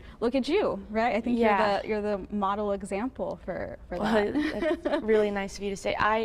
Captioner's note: chuckles